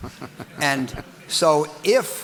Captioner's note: audience laughing